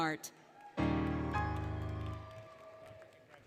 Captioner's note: applause, Cheering, Music; applause, Cheering